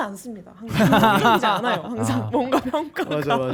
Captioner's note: laughing guitarists